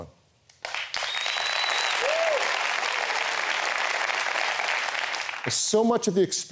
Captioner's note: applause